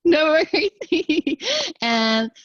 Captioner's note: laughter